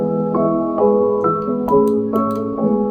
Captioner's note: mouse clicks